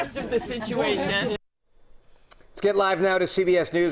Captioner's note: laughter